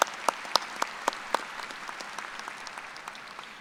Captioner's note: applause